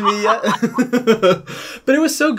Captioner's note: laugher